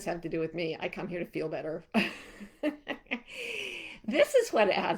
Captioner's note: chuckling